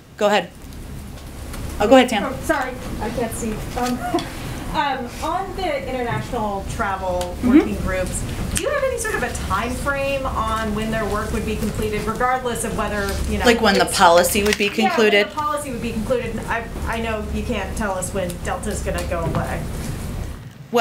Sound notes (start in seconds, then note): 3.8 laughs